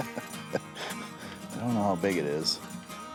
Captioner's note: he laughs